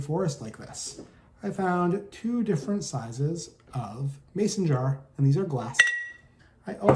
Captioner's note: clink